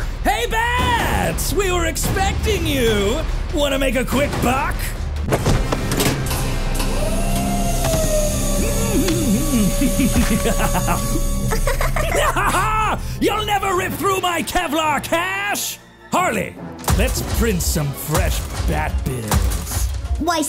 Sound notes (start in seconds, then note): 5.3 hammer thuds; 5.9 machine whirs; 8.9 Joker and Harley laugh